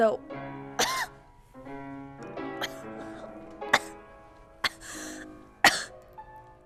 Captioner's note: coughing